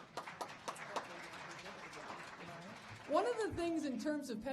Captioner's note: audience applauding